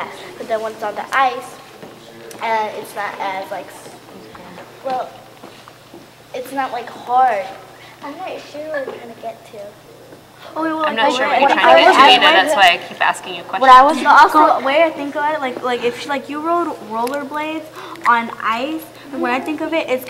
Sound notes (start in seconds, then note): 14.1 chatter